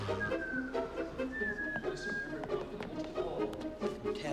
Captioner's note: whistles